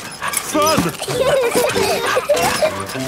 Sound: straining; peppa and george laughing

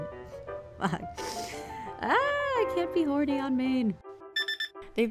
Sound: shouts

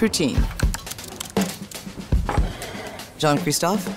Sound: lively music; text typing

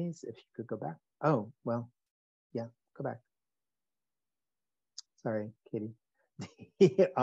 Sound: chuckles

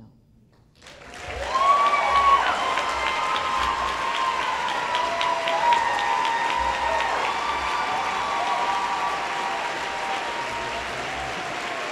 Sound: applause

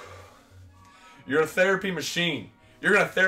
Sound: sighs

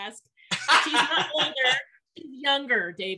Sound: laughs

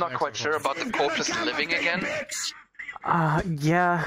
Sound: yelling

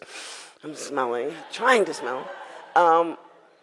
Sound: audience laughs

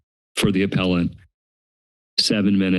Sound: silence

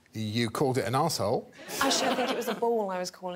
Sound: audience laughing

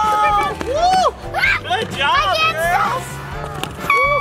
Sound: screams

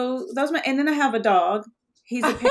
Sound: laughing

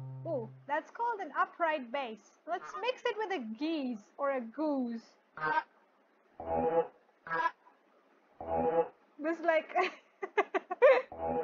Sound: chuckle

